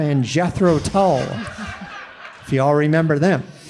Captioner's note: audience laughing